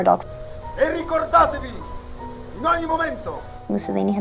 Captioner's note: Mussolini speaking in foreign language